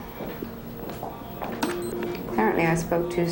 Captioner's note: beeping